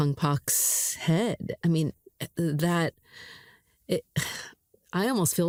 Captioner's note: sighs